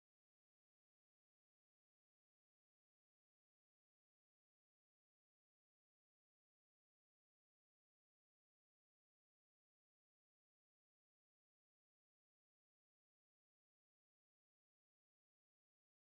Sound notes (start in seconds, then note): none